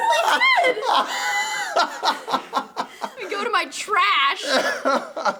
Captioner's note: laughs